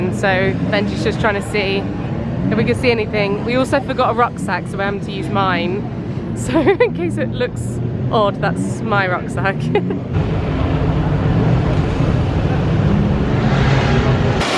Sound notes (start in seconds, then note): 9.4 giggles